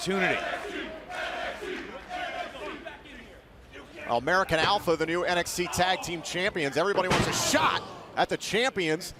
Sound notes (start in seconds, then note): 3.3 fans chanting